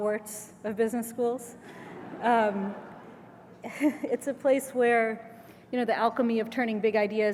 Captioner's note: laugh